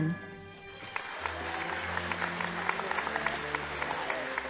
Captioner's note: audience applauding